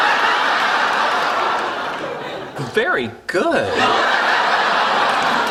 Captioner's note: laughter